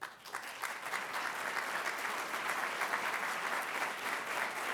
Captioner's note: applause